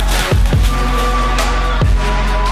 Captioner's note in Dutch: camerageluid fade uit